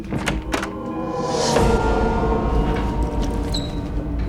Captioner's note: ghostly whisper in music